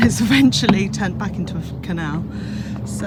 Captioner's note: laughs